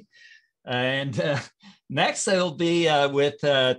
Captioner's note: chuckles